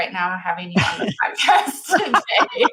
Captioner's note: laughing; laughs